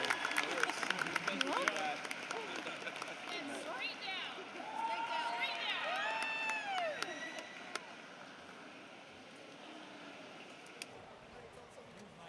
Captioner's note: applause